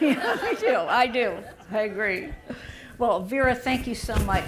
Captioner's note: laughter